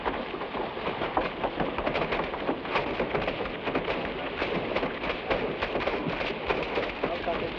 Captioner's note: flames crackle; branches smack